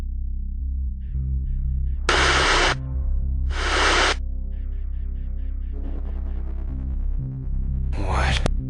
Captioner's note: static